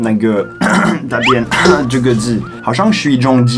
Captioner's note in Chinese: 咳咳